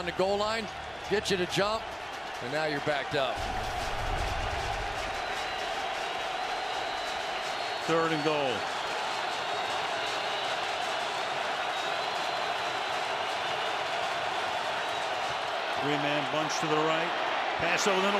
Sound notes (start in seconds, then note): 4.2 crowd cheering; 9.4 crowd cheering